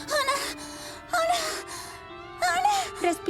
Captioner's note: hyperventilating